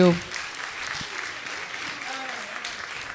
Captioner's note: applause